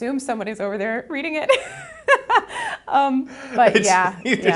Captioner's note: laughs